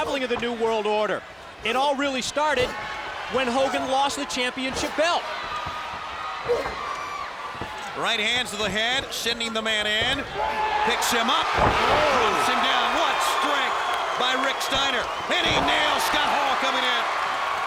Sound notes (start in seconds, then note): 12.7 crowd cheering